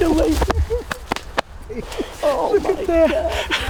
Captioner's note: hand patting; excited laughing